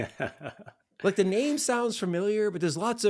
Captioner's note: laughing